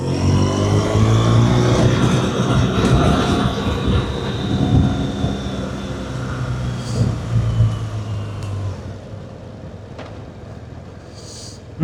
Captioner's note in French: gémissement